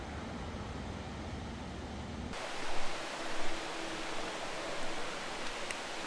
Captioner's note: water crashing down